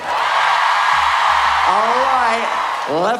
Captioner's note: audience cheer